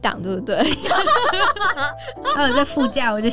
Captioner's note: heroic laughter XD